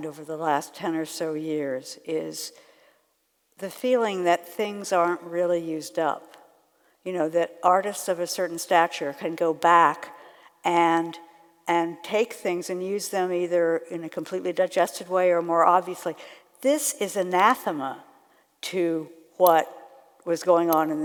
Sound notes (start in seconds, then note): none